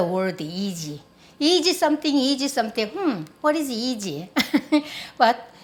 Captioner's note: laughs